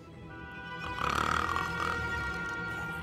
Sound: snoring

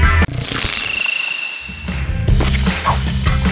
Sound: chirping; upbeat music

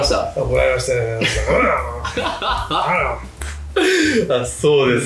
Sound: angry mocking noises

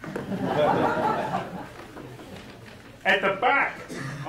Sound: audience laughing

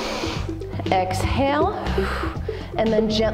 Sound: exhale

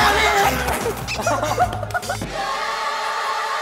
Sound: falls down in laughter; haha

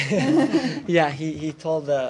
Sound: laughter

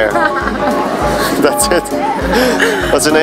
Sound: laughing

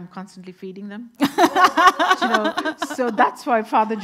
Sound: everyone laughing

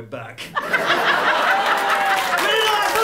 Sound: laughter and applause

